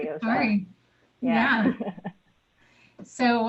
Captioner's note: laughs